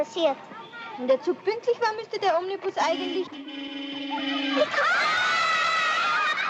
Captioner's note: honk; the Children Cheer. The Bus Driver Honks Again